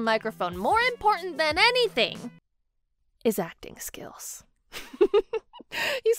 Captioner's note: laughs